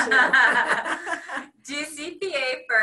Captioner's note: laughing